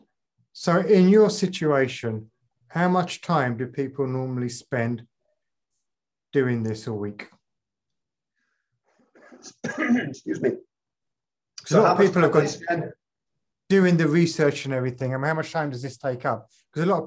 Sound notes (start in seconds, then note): 9.4 coughing; 12.9 faintly speaking